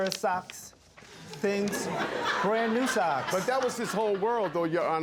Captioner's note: audience laughs